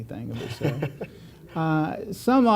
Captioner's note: laughter